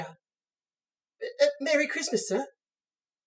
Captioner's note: stammers